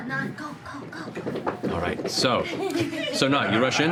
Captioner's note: scampering feet